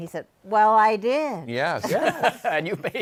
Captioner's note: laughing